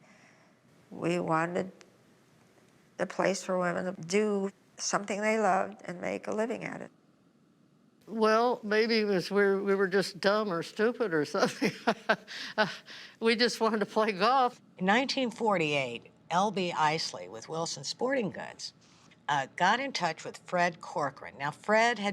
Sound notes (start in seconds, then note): 11.4 chuckling